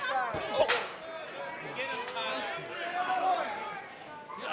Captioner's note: crowd clamors